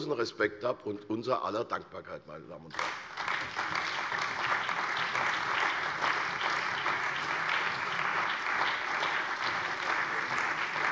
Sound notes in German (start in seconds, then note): 2.7 Beifall bei der CDU und dem BÜNDNIS 90/DIE GRÜNEN